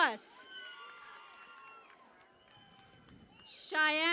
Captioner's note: cheering and Applause